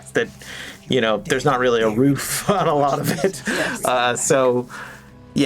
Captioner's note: chuckles